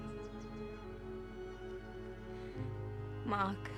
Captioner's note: birds chirping; gentle music